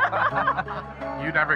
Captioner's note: speaker laughs